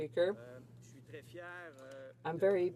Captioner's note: speaking French